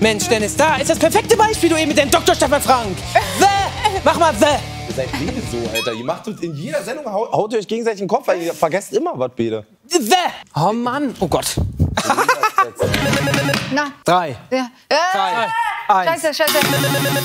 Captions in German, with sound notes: Mensch, Dennis, da ist das perfekte Beispiel mit dem Doktor Stefan Frank. "The"! Mach mal "the"! Ihr seid wirklich so Alter, in jeder Sendung haut ihr euch gegenseitig den Kopf ein. - "The"! Oh Mann! Oh Gott! (Schadenfrohes Lachen) Scheiße, Scheiße.